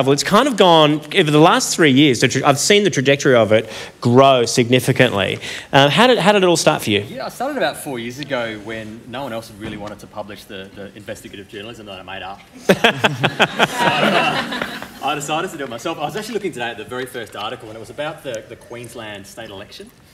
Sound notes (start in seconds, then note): 12.6 laughter